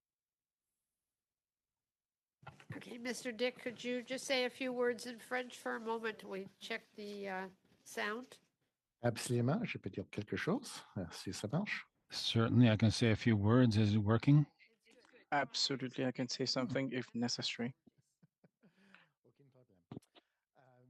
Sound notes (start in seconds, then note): 14.4 speaking French